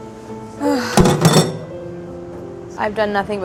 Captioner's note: sighs